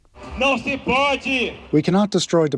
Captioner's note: through translator